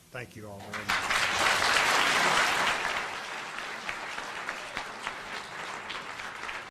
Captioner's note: audience applauding